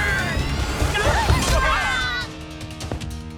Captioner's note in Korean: 닌자들 신음